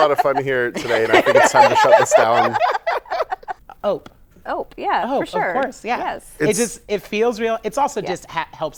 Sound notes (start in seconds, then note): 3.7 laughter